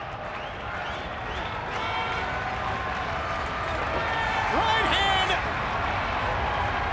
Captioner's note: crowd cheering